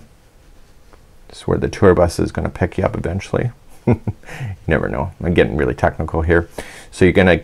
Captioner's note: chuckles